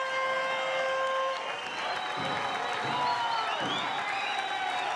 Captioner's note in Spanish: aplausos y exclamaciones